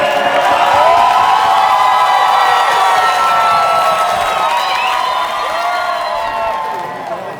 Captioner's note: cheers, table banging and clinking of glasses